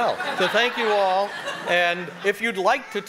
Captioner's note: audience laughing